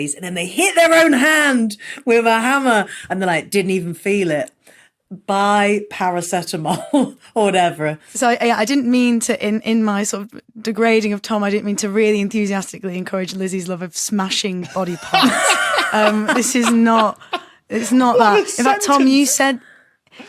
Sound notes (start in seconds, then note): 14.8 laughs heartily; 15.3 wheezes